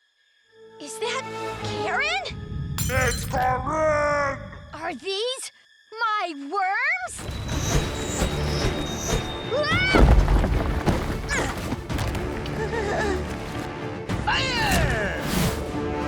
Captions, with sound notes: Is that Karen? - It's Karinne! - Are these my worms? (suspenseful music) (screaming) - Fire!